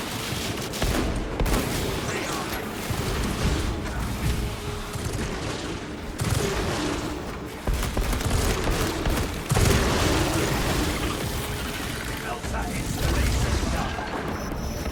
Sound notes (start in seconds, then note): 5.1 gunfire